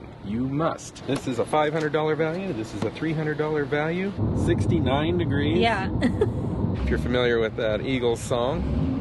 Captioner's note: giggle